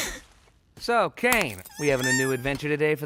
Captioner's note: whimpers